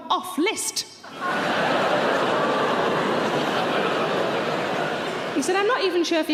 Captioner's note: audience laughing loudly